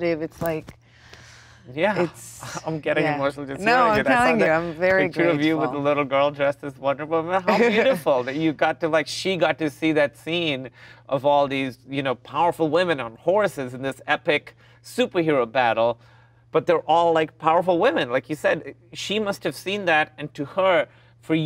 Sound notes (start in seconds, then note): 7.3 Gal laughs